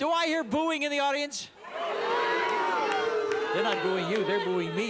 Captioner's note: cheers